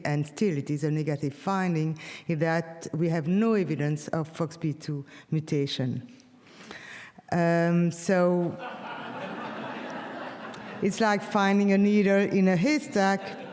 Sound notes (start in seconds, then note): 8.6 audience laughs